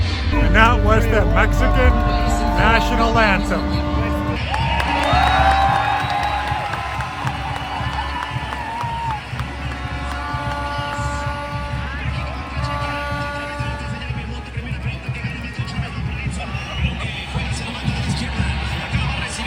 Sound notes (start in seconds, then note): 3.7 cheering; 4.3 applause